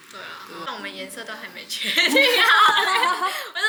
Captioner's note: laughs